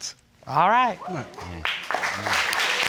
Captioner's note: crowd whooping; crowd clapping